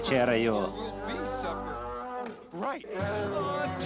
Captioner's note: bear continues growling